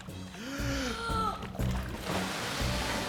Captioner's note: both Inhale Deeply